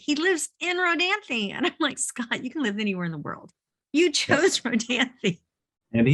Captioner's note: chuckles